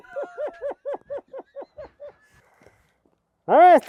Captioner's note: speaker laughing